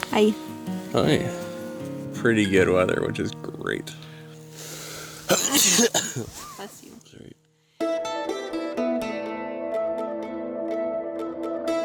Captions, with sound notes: Hi. - Hi. Pretty good weather, which is great. (sneezes) - Bless you. - Sorry. (atmospheric guitar music)